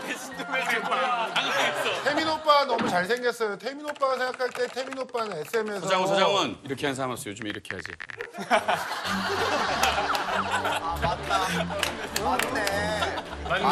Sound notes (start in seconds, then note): 3.6 typing typing